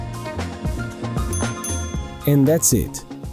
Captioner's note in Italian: Suono del campanello